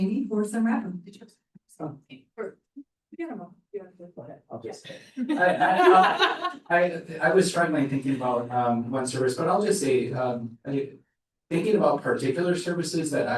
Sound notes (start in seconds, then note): 1.7 indistinct chatters; 5.2 laughter